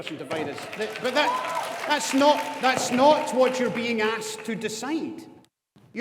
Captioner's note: audience applauding